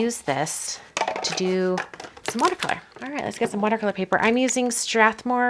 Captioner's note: roll hitting surface